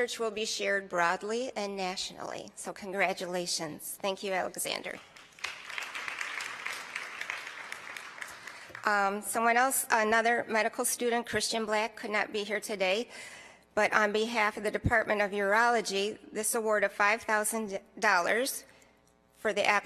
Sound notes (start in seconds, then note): 7.9 applause